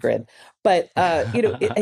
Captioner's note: laughs